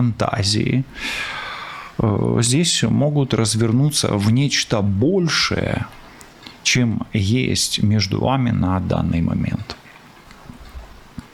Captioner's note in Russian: вздыхает